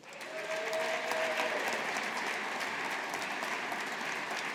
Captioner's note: audience applauding